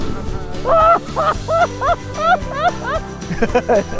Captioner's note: laughing